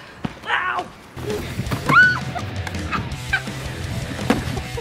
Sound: more screaming

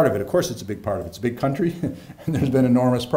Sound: laughing

